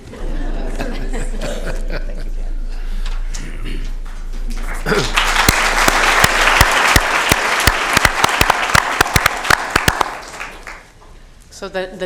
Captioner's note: applause